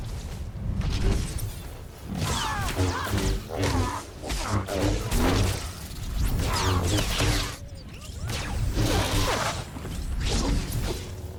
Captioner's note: gunshots